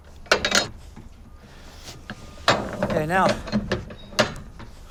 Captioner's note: gate closing